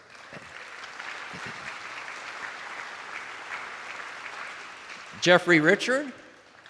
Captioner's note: attendees applauding